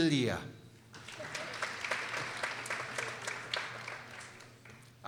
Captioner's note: people applauding